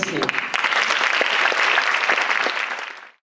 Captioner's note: applause